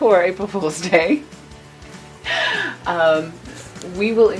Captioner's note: chuckles